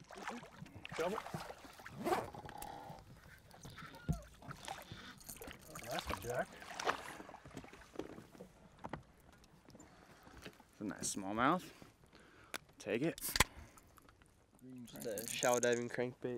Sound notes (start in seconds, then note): 2.0 creaking; 4.0 fish splashing